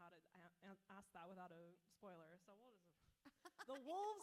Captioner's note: author laughs